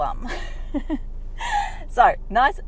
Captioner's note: laughs